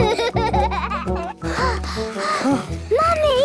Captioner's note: children giggling; panting